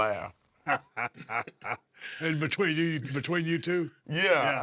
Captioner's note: laugh